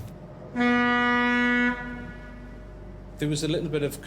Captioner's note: horn blasts